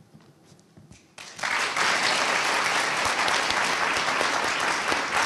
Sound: audience applauding

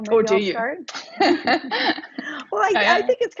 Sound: laughs

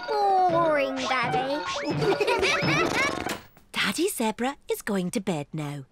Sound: all giggle

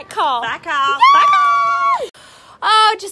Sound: squeals

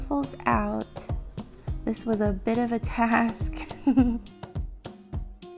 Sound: chuckles

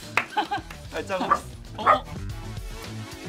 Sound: puppy barks; soft music

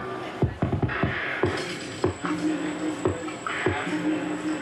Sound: monsoon sounds over music bed

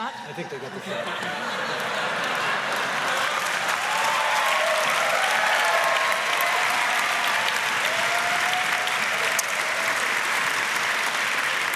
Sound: laughter & applause

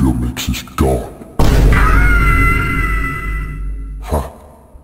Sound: Vine boom, Rubrim Screams

